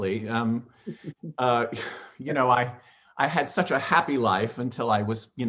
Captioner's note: chuckles